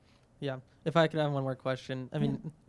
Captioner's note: voiceover